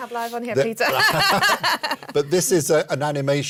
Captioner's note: laughter